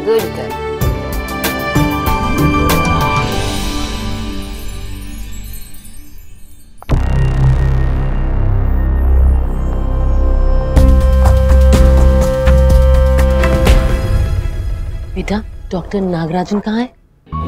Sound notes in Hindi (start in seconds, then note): none